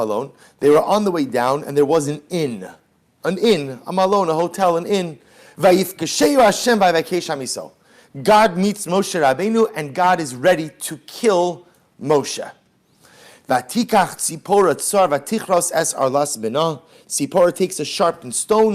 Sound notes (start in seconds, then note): 0.0 Hebrew; 6.2 Hebrew